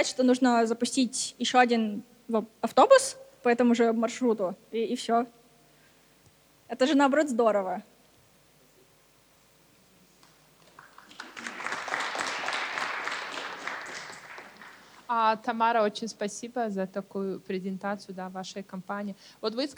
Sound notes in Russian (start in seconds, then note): 10.6 аплодисменты